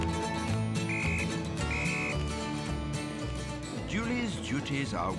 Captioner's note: whistle blows